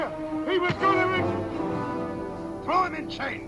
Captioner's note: thudding